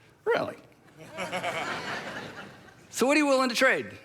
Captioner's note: crowd laughing